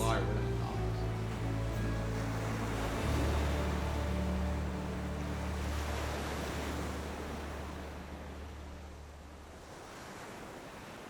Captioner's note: sound of waves rolling